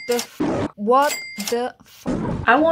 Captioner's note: lion roar; lion roar